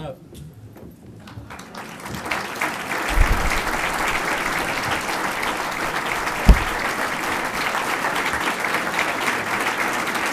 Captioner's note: applause